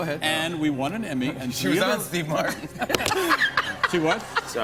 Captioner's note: laughter